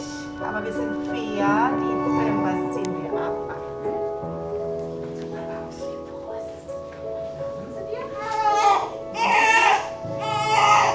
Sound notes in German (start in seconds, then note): 3.4 Emotionale Musik; 8.3 Lautes Schreien